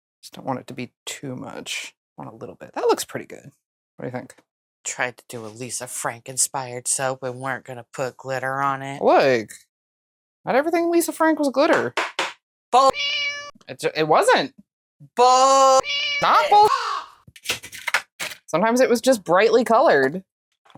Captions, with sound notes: I just don't want it to be too much. want a little bit. That looks pretty good. What do you think? Tried to do a Lisa Frank inspired soap and weren't going to put glitter on it. ~* LOOK *~ Not everything Lisa Frank was glitter. Bull[MEOW]! It wasn't! Bull[MEOW]! Not bull[CAW]. Sometimes it was just brightly colored.